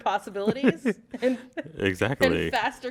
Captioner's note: laughter